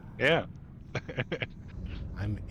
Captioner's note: laughing